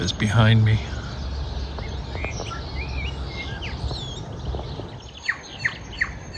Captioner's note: birds chirping